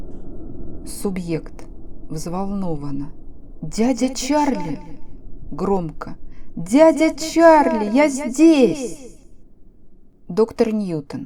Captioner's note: excitedly